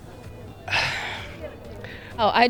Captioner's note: exasperated sigh